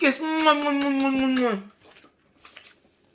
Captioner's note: kisses